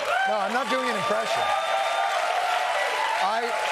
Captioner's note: laughter, applause